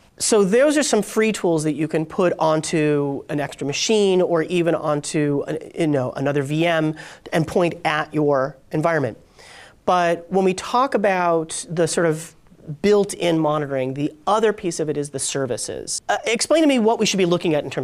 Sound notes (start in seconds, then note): none